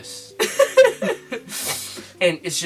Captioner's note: goblin laugh